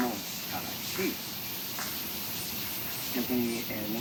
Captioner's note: speaking in foreign language